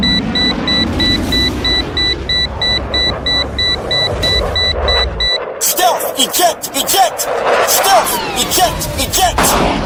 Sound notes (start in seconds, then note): 0.0 warning system beeps; 3.5 plane engine roaring